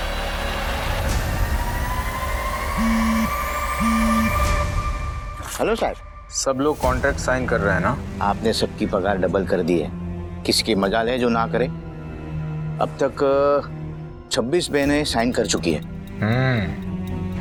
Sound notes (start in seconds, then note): 2.7 phone buzzing